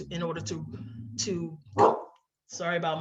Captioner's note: dog barks